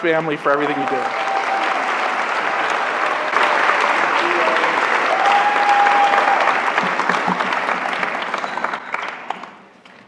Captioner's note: applause